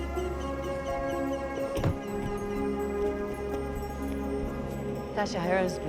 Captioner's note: car door thuds